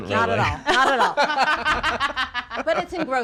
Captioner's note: laughing